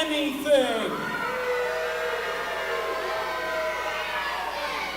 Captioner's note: crowd yells and boos